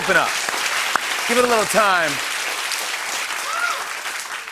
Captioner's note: applause